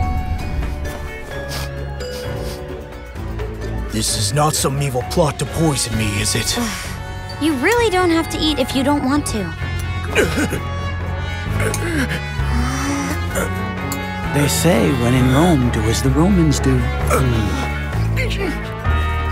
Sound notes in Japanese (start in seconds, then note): 1.3 ニオイを嗅ぐ音